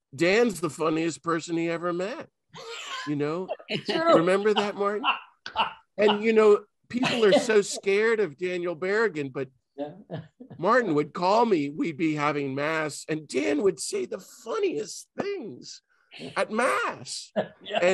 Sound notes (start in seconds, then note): 2.6 laughs